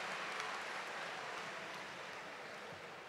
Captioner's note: cheers and applause